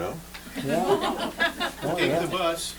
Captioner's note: laughter